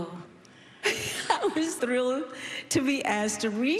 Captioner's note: laughs